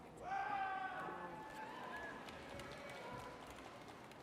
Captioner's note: audience cheers